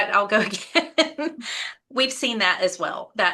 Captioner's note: chuckles